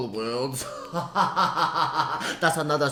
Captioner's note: laughter